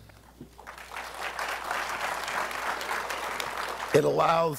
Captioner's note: applause